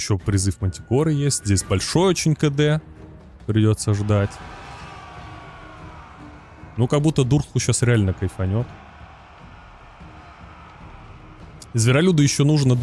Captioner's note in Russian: крик